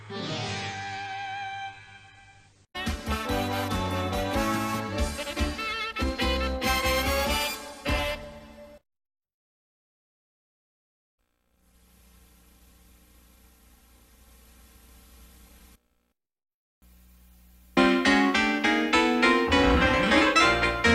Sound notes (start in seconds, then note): 2.5 cartoon music finishes in a music snippet; 9.2 silence; 11.2 VHS static; 17.6 90s digital synth music plays